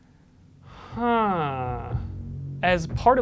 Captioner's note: existential sigh